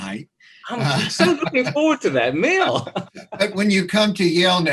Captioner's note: laughs